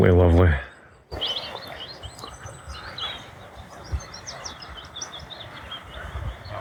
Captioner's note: birds tweeting